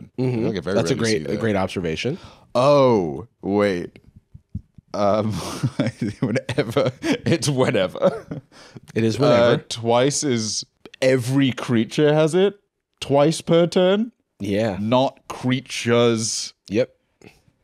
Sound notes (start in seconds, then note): 5.2 laughing